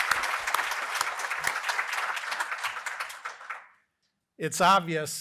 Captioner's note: applause